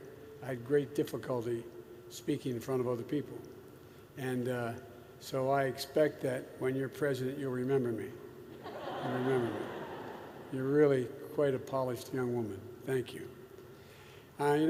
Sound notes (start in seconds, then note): 8.5 laughter